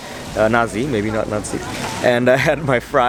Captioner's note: German